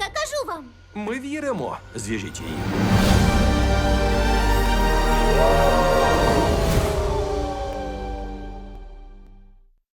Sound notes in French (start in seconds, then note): 5.0 hurlements de loups-garous